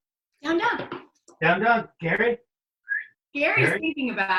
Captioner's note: whistling